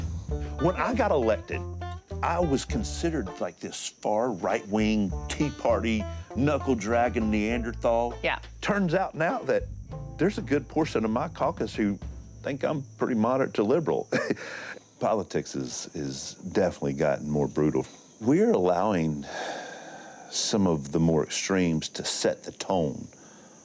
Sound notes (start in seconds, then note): 14.0 chuckles; 19.2 sighs